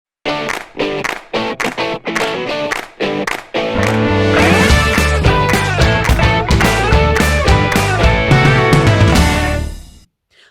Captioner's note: claps